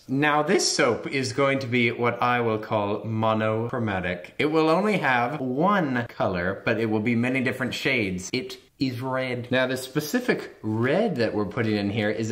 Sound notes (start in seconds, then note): none